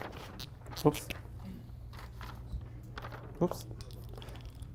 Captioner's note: marker squeaking